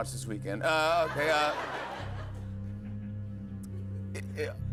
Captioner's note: laughter